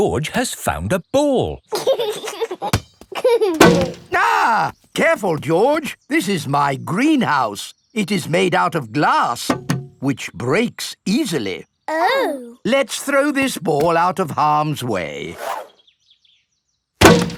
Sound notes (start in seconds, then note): 1.6 chuckling; 3.6 thuds; 3.9 screams; 9.5 knocks